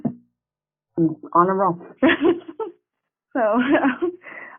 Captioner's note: chuckling